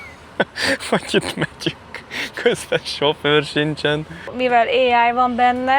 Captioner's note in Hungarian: nevetés